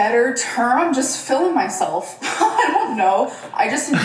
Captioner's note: laughs